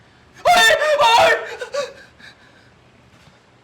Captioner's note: screams